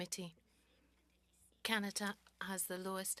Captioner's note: speaking French